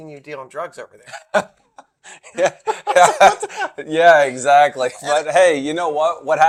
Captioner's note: laughs